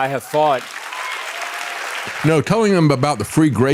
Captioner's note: audience Applauding